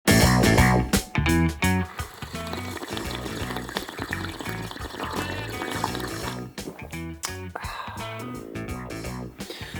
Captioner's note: obnoxiuously slurping the coffee